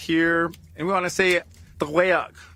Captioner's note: foreign language